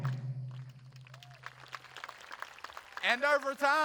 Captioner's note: audience applauding